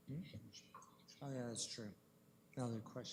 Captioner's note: whispering